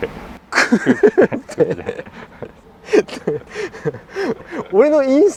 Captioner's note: laughs